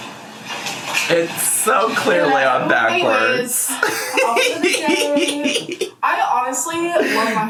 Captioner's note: laughs